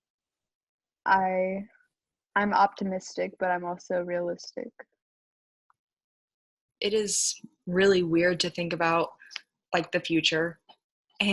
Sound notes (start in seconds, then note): none